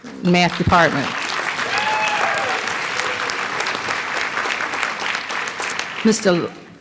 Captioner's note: applause